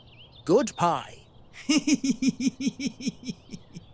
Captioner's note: laughs